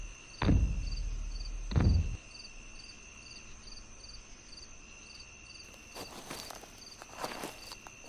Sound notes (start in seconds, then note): 0.6 footsteps; 3.4 crickets Chirping